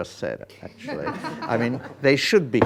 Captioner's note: students laughing